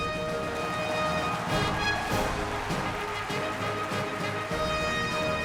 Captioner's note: crowd cheering